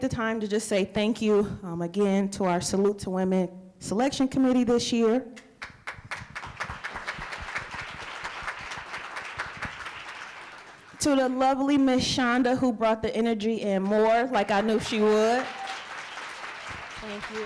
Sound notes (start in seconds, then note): 8.5 applause; 16.9 applause